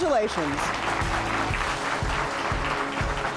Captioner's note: applause